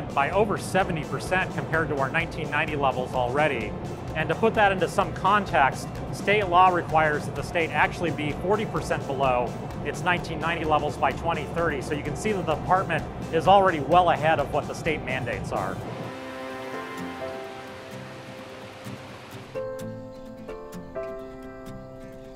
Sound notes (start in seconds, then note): 15.7 water rushing; 19.5 wind and nature sounds